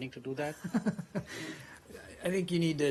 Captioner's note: laughter